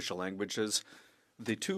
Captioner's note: speaking French